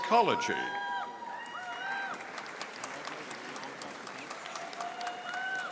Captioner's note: audience applauding